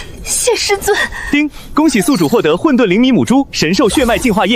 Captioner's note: ding!